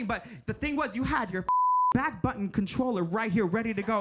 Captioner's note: beep